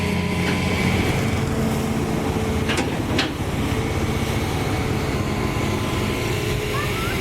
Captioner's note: engine Rev